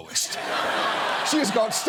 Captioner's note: laughter